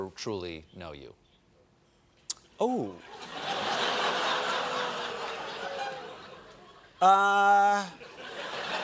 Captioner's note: laughter